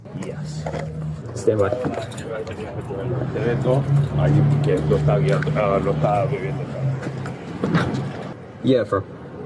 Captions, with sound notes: Yes Stand by (Officer speaking in a foreign language) Yeah confirm